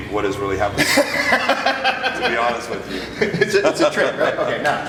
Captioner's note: laughs